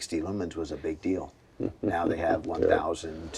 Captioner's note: laughing